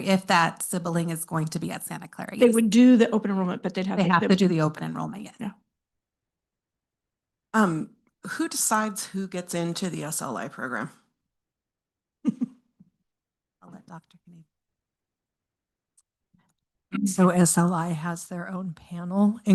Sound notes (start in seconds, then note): 12.2 trustee laughing